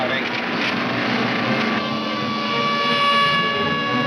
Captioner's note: siren wailing